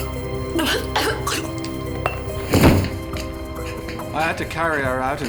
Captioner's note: Vangie coughing